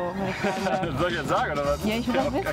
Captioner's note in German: lacht